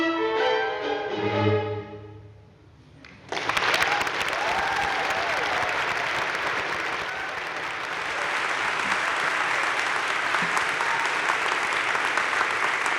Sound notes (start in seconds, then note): 3.2 audience cheering and applauding